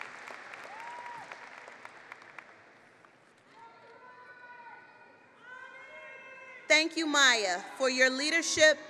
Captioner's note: applause